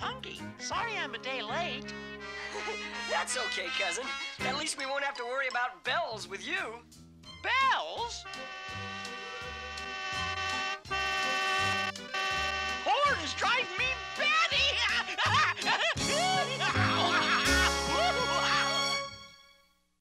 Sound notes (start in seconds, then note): 8.4 honking; 12.2 exclaiming